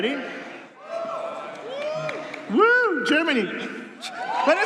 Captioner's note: applause